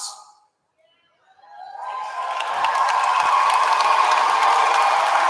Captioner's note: applause